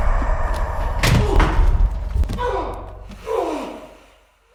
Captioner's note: Jacob groans; ominous boom; body thuds; Jacob groaning